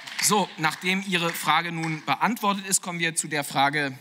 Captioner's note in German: Beifall